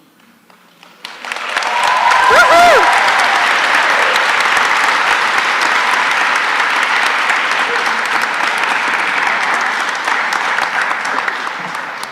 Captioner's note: applause